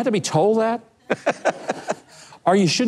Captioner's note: laughs